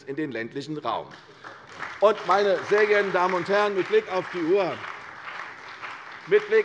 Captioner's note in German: Beifall bei der CDU und dem BÜNDNIS 90/DIE GRÜNEN